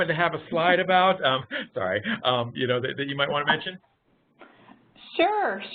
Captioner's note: laughing